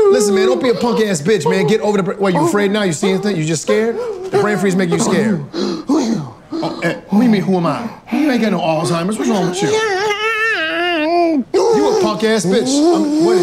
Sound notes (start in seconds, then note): 9.2 man shrieking